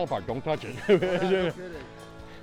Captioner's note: both chuckle